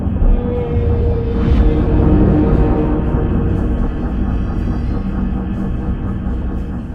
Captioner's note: metal groaning; propellers chuffing